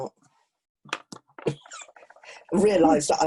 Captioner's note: laughing